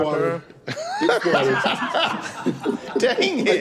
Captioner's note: laughter